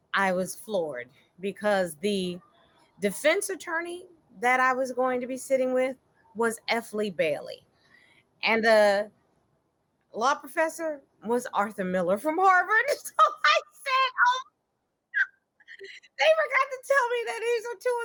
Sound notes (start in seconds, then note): 15.8 laughing